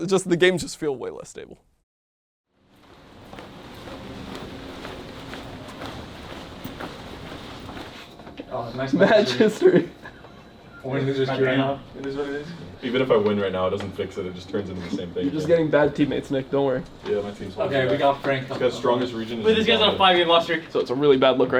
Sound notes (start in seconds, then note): 2.8 footsteps thudding; 9.0 laughs